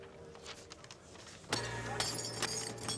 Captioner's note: glass smashes